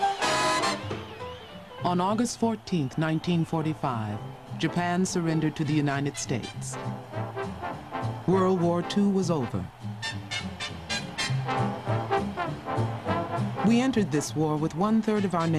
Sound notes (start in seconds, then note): 4.9 applause